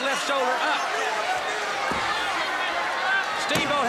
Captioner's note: crowd chatter